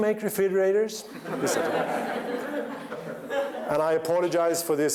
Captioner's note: laughter